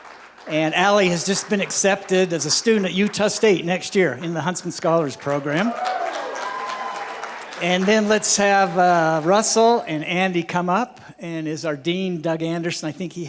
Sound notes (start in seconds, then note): 5.2 cheering